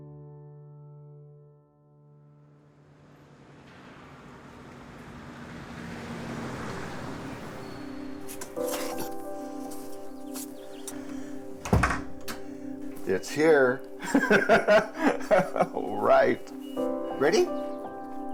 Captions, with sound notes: (soft music) - It's here. (chuckles) All right. Ready?